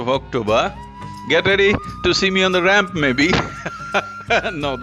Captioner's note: laughs